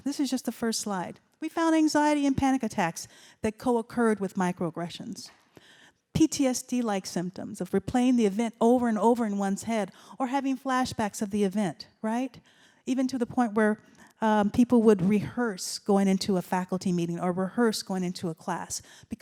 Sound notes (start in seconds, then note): none